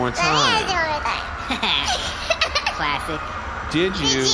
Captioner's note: giggles; laughs; slurring